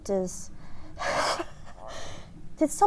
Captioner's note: laughs